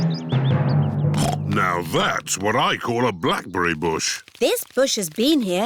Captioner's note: snorts